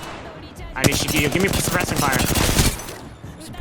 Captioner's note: echo